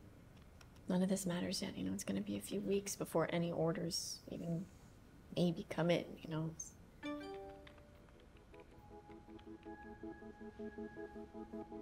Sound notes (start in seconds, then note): 7.0 computer chimes; 7.0 emotional music playing